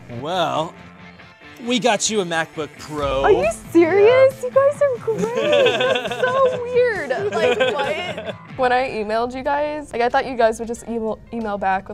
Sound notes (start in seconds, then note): 5.0 laughing